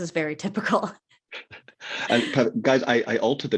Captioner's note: laughing